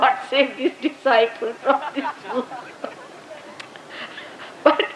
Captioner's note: Shri Mataji laughs